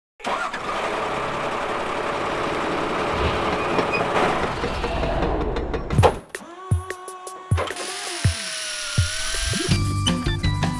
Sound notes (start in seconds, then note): 0.2 engine starts up; 6.4 hammering; 7.6 drilling; 7.7 motor whirring